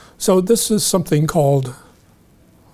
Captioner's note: none